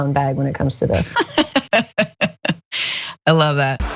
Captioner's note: laugh